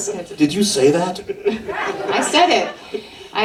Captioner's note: laughter